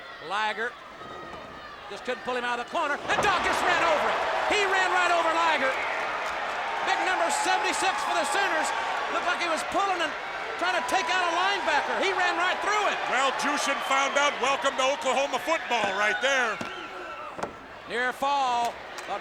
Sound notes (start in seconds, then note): 8.5 audience cheers